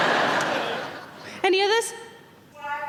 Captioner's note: laughing